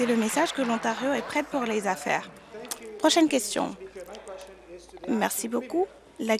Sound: applause

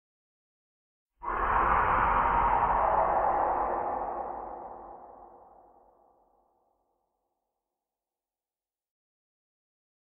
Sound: scary shriek

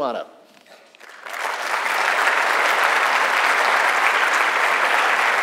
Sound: audience applauds

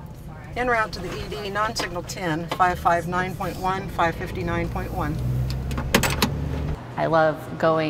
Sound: communicating over radio

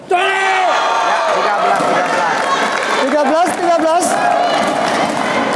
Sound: applause

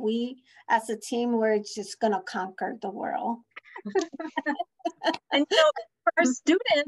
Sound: laughter

